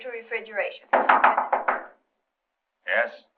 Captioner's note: knocking on door